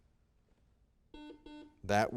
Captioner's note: buzzer rings